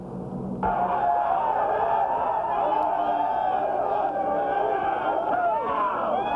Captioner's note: cheers and shouting